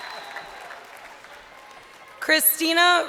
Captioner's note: crowd cheering